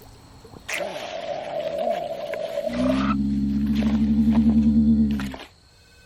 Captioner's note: mud squishing; wind blowing; low growl; cicadas humming; machine scan beeping